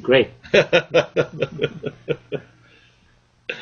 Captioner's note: laughing